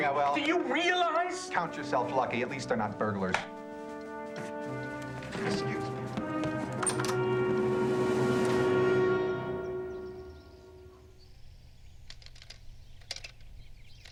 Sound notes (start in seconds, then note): 6.5 door opens and closes; 12.9 clicking